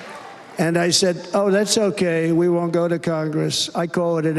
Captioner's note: cheers and applause